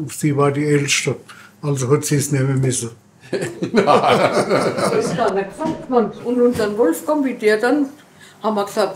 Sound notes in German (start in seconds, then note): 3.3 Lachen